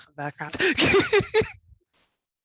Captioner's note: laugh